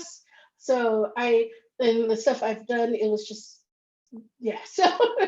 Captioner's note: laughs